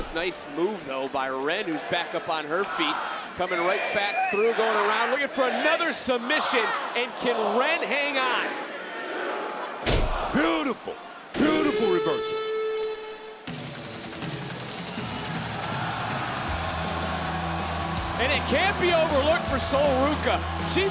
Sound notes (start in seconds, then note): 11.4 alarm blares; 13.7 crowd cheers; 13.7 surf rock music